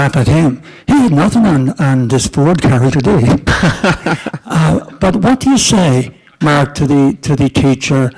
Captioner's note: laughter